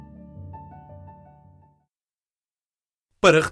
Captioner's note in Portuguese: Voz masculina